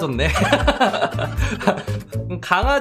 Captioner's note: laughing